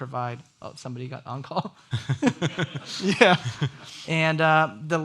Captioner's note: people laughing